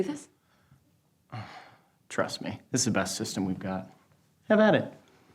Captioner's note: grunts